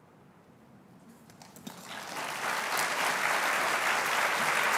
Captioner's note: applause